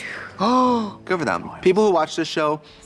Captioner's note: gasps